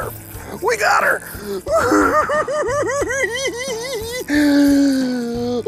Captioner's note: hooting and giggling